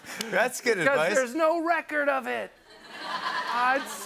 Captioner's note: laughter